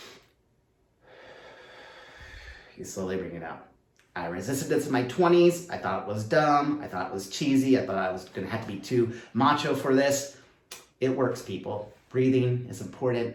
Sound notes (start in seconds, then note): 1.0 deep breath